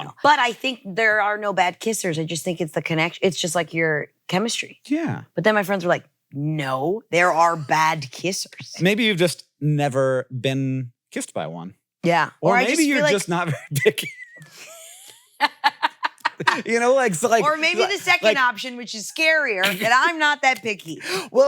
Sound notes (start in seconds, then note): 14.4 laugh; 15.3 laughs